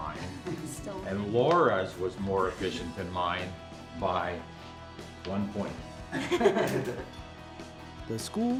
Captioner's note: laughter